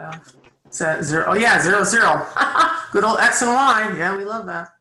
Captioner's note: laughs